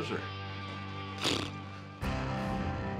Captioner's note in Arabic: ينفخ التوت